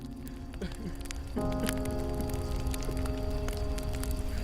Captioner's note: man crying